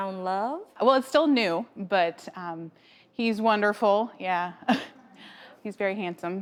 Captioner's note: laughs